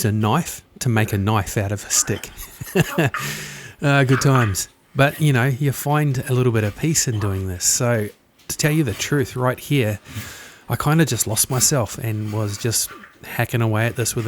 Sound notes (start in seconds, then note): 3.1 laughs